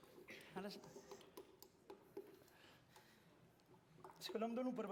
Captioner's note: non-english speech